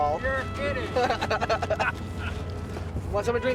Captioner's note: laughter